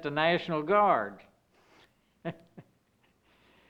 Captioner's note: laughing